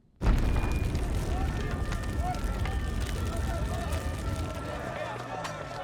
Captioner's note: explosion roars, siren blaring; crowd murmuring